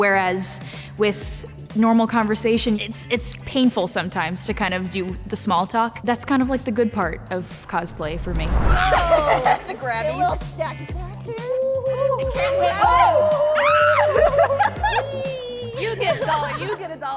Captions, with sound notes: Whereas, with normal conversation, it's, it's painful sometimes to kind of do the small talk. That's kind of like the good part of cosplay for me. (contestants giggling) - Whoa, the grabbies. - A little stacky stack here. (contestants cheering) - Wee. - You get a dollar, you get a dollar, you get a dollar.